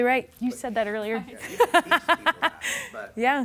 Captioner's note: laughing